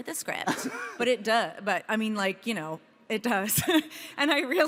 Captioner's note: laughs